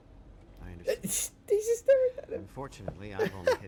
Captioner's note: laughs